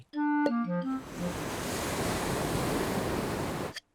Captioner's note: waves crash and swoosh